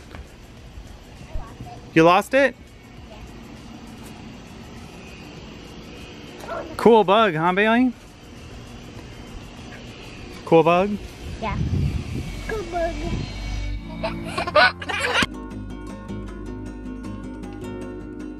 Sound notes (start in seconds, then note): 14.0 baby giggles; 15.3 fast guitar music